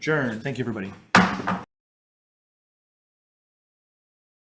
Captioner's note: gavel taps